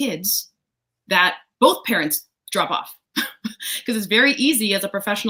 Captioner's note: laughs